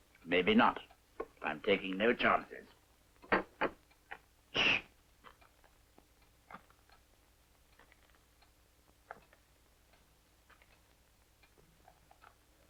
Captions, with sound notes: - Maybe not. But I'm taking no chances. Shh! (clock ticking)